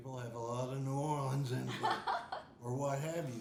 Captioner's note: laughing